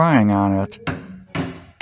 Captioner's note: hammering sounds